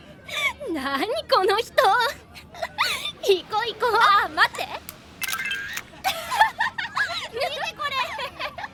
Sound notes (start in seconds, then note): 5.2 camera Snaps